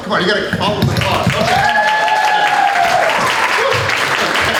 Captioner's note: applause